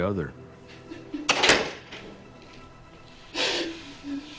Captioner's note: sobbing; tense music